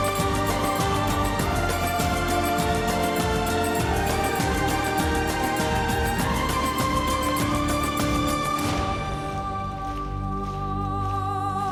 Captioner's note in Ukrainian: оплески